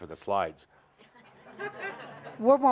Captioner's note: laughter